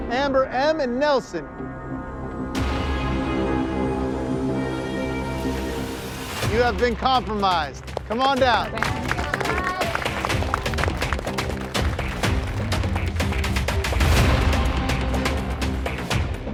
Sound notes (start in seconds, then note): 9.3 everyone claps; 11.9 dramatic music plays